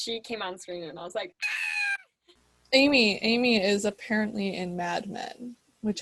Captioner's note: screaming sound